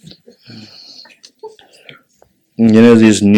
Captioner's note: general laughter